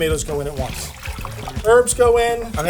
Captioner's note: tomatoes slushing